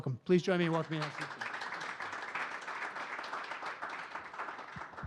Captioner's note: audience clapping